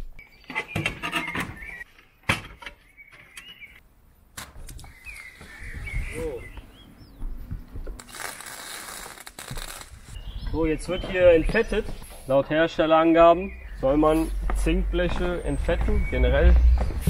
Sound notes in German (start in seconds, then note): 0.1 klappern; 4.7 vogelzwitschern